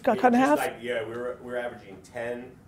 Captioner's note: none